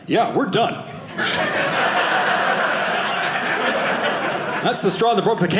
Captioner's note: audience laughing